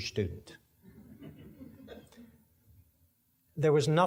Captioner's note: audience laughing